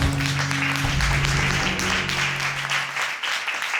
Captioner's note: audience applauds